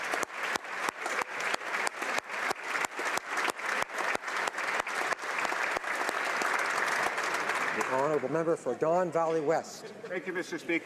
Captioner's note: applause